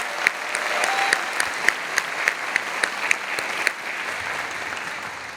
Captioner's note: audience applauding